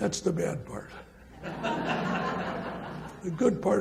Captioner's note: audience laughs